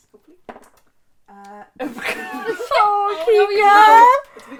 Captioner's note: sputtering